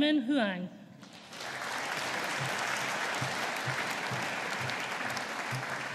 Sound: audience applauding

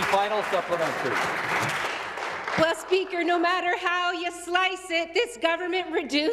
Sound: some Applause

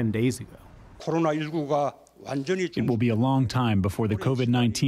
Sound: through translator

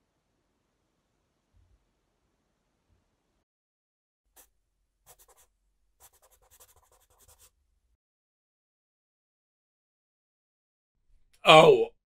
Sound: sound of pencil scratching onto paper

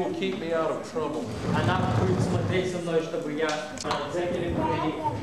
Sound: non-english speech

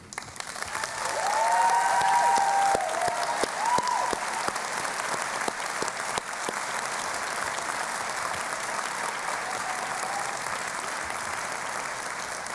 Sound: applause and Cheering

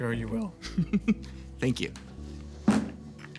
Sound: laughs

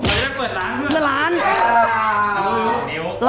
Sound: pat; mocking

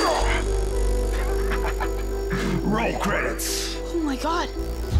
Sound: laughs

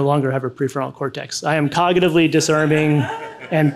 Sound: audience laughs

